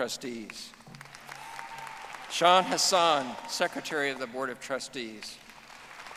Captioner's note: audience applauding